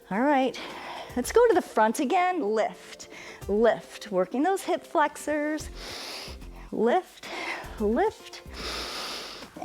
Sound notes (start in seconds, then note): 5.7 inhales; 8.5 exhales; 8.5 inhales